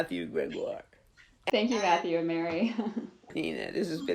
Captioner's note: laughs